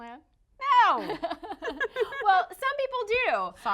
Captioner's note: laughing